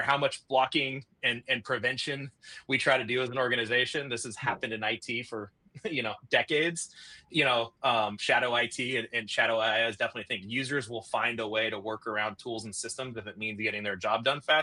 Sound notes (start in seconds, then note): 5.8 chuckles